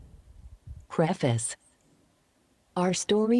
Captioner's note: Synthetic voice